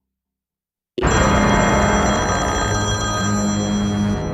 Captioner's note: loud ringing